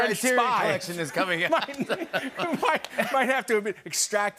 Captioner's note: laughter